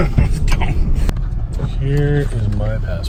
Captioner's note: laughs